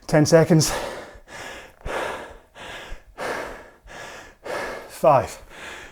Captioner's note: breathes heavily